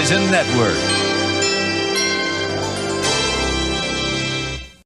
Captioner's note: NBC chimes plays